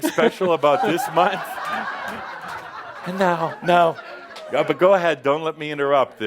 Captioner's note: laughter